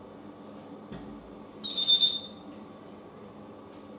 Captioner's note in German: telephone sound